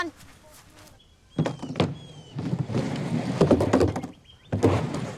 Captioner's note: birds chirping